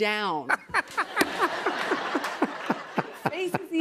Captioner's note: laughter